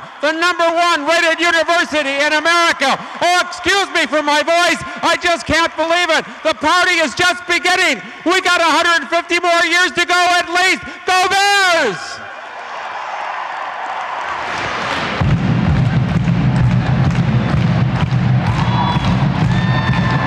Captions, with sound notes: The number one rated university in America! Oh excuse me for my voice, I just can't believe it! The party is just beginning! We got 150 more years to go, at least! Go Bears! (audience applauds) (rhythmic drumming)